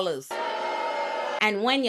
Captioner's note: audience cheering